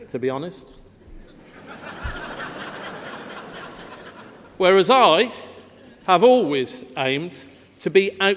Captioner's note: laughter